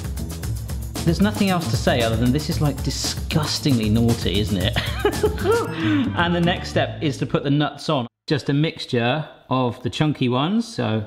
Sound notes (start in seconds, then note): 4.8 laughs